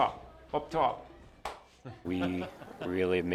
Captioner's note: laughter